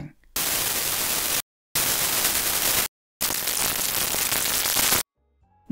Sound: three bursts of static noise playing

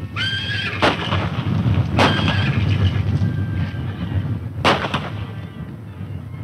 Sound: horses neigh; running hoof beats; gun shots

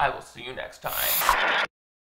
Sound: static crackling

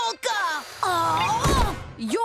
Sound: groaning

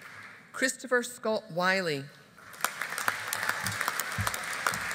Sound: audience applauding

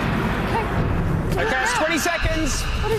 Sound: monkey screech

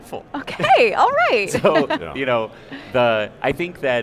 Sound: chuckles

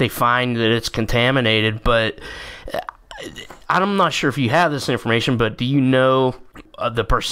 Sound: stammering

